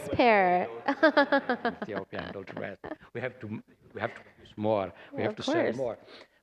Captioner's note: laughter